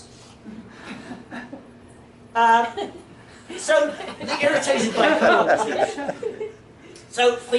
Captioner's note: laughter